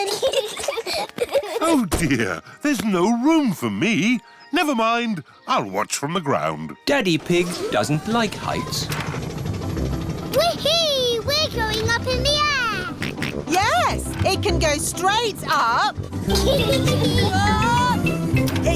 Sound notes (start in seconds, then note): 0.0 peppa and george giggling; 12.9 snorts; 16.1 kids giggling